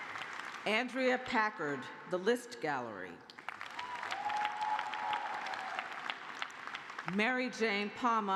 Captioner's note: cheers and applause; cheers and applause